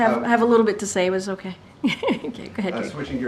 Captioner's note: laughs